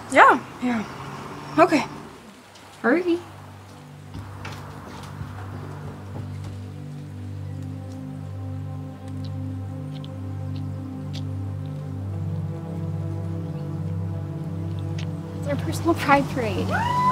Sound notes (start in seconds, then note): 6.7 birds chirping; 6.7 peaceful music; 16.6 all cheering